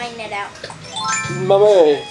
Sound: chime as net appears

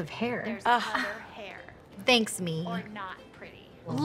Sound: women sigh

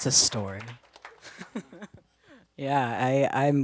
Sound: laughs

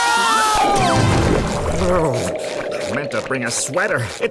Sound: shivering

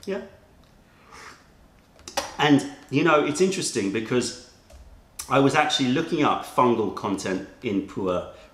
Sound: sips tea

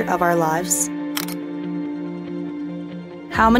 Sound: camera shutters

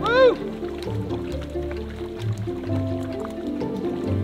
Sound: water spashing

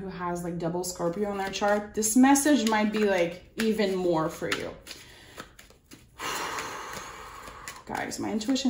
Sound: audible exhalation

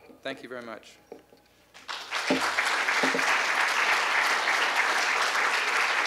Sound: applause

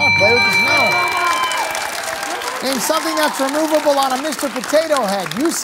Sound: cheering

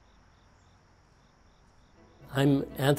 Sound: crickets chirping

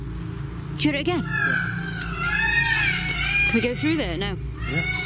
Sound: peacocks squawking

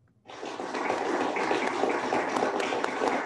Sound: applauding

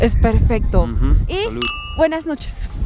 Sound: glasses clink; speaks foreign language

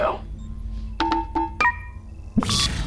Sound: beeping

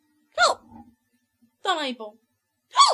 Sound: hiccups

